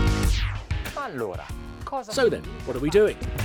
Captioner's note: speaking foreign language